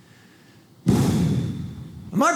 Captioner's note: blows air